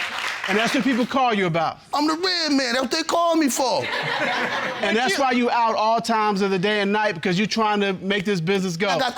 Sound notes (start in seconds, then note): 3.8 laughter